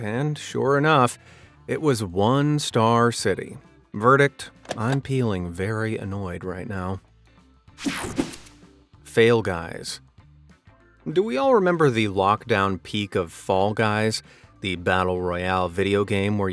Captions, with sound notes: and sure enough, it was one star city. Verdict, I'm peeling very annoyed right now. (whooshing sound) Fail Guys. Do we all remember the lockdown peak of Fall Guys, the battle royale video game